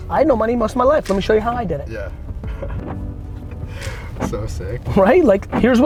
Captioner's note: laughs